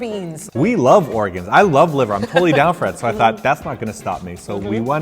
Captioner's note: laughs